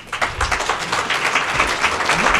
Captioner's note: applause